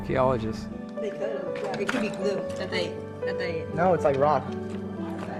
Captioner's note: people mumbling